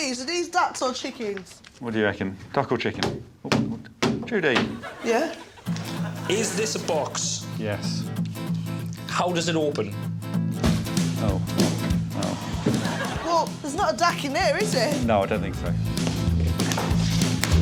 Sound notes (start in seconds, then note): 4.0 pounding